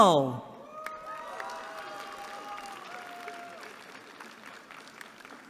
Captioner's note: applause